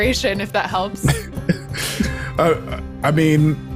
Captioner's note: laughs